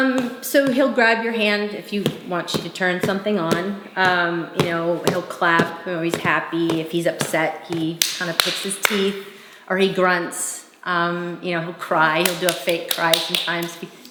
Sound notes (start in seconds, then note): 12.2 claps